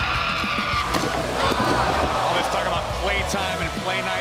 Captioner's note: crowd chatter